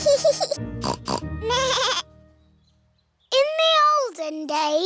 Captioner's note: both giggling; snorts; bleats